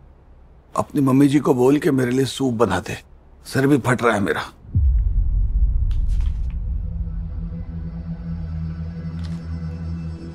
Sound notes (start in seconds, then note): 6.0 pages rustling